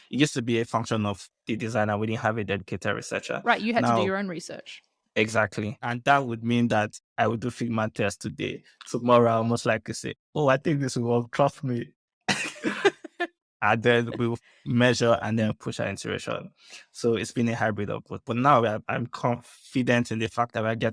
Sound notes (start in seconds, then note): 12.3 laughter